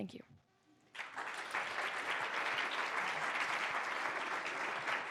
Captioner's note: applause